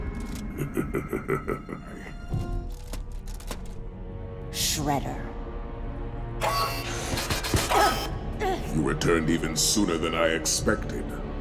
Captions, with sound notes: [laughing] Shredder. [grunting] You returned even sooner than I expected.